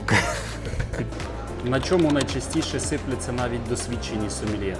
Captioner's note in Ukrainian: сміх